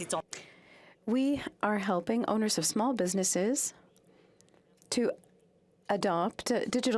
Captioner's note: speaking French